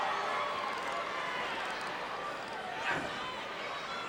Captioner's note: crowd cheering